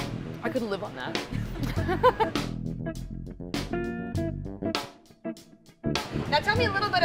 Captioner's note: laugh